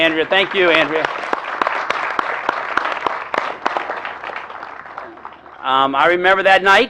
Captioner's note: applause